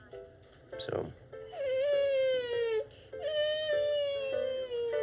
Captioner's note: cries